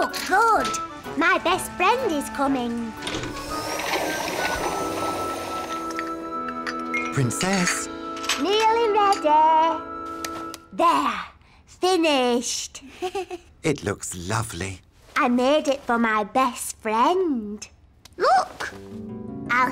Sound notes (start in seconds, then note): 6.5 clattering; 12.8 giggles